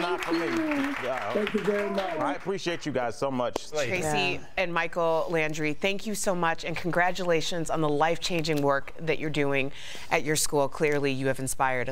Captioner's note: cheers & applause